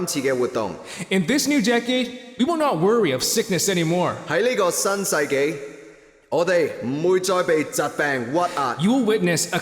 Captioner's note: translates in cantonese; translates in cantonese